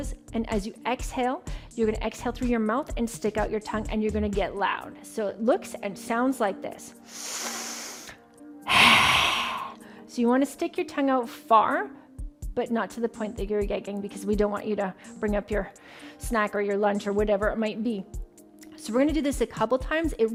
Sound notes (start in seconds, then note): 8.6 breath rushing